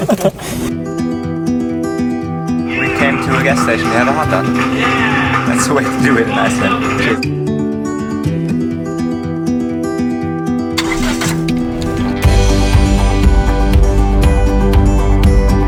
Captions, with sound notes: (inspiring music) - Came to a gas station to have a hot dog. That's the way to do it. (inspiring music) (car engine revs) (inspiring music)